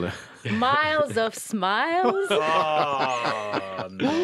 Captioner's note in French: rires